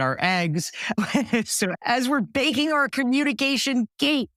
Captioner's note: laugh